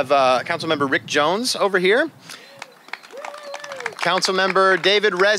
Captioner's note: applause